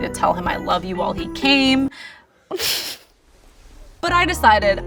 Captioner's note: laughs